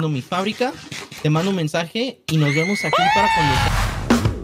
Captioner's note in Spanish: grita